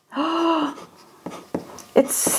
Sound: gasps

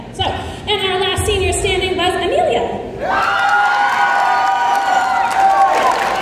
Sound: cheering

